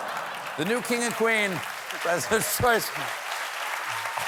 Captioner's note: applause